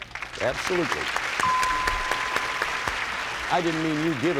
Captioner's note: applause; bell rings